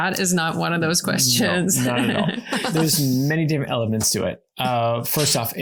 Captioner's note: laughing